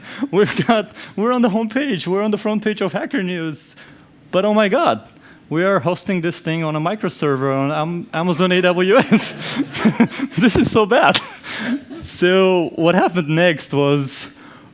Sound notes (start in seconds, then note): 11.5 laughs